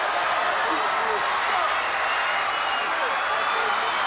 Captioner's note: crowd cheering